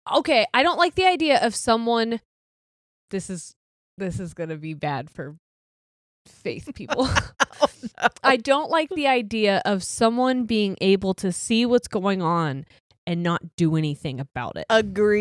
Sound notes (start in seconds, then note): 6.8 giggles